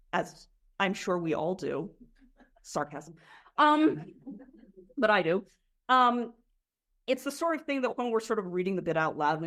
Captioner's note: sarcasm